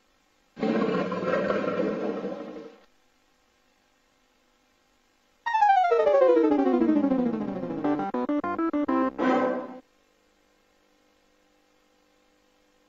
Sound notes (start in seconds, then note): 0.6 jaguar roaring; 5.4 32-bit console startup music